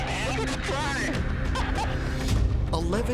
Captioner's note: laughs